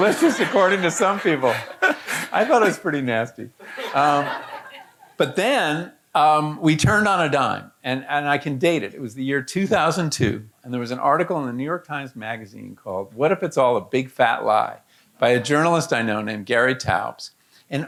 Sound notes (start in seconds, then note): 0.0 audience laughing